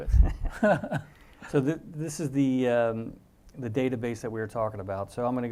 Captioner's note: laugh